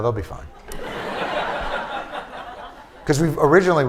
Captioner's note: laughter